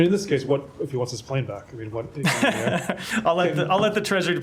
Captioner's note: laughter